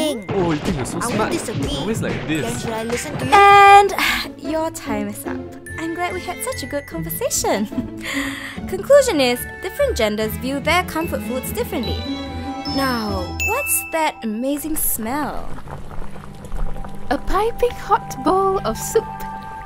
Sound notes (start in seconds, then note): 0.2 quarrelling; 7.6 nervous laughter; 14.5 soup boiling